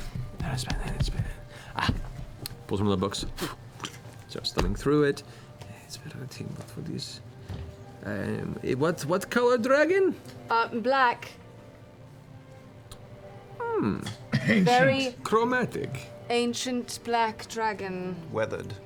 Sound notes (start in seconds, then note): 3.3 blows; 5.3 mutters; 14.5 quietly